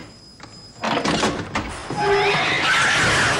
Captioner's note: cat yowls